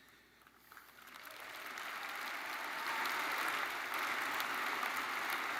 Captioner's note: attendees applauding